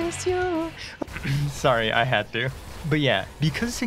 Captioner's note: cough